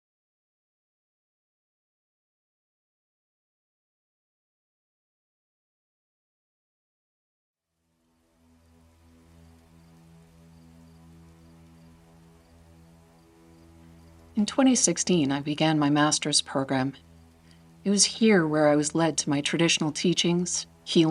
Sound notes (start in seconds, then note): 8.3 crickets chirping; 8.3 soft dark music